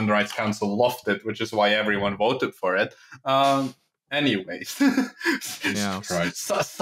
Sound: laughs, somewhat unhinged

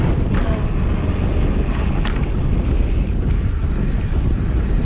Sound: chain whirs

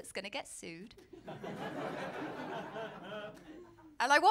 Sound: laughter

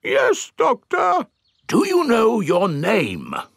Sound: in teddy's voice; in normal voice

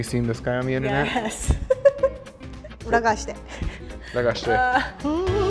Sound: laughs

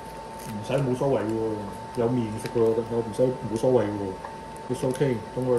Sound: Cantonese

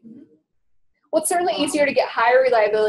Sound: voiceover

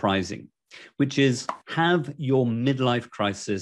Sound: air popping

